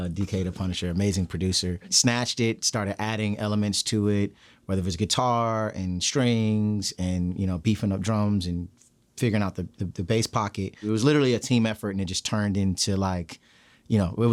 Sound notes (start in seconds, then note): none